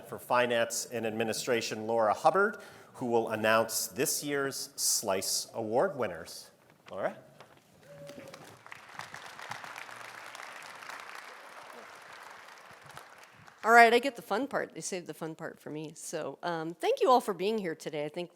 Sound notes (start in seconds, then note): 7.9 audience applauding